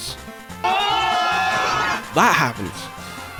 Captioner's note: hosts scream